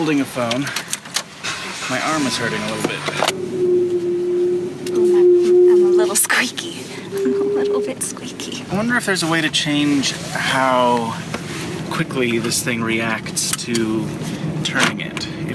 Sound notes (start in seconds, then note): 1.4 Jeep engine starts; 1.5 high pitched hum; 6.0 laughing